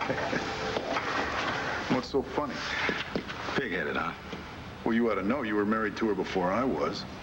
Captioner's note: hank chuckles